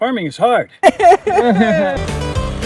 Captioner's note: hysterically crying; country banjo music